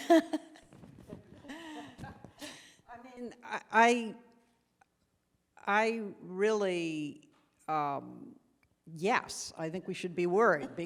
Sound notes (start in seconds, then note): 0.0 laughs